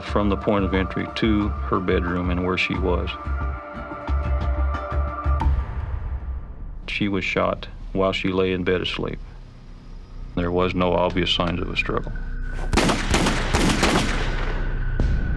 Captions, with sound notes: from the point of entry to her bedroom and where she was. She was shot while she lay in bed asleep. There was no obvious signs of a struggle. [GUNSHOTS]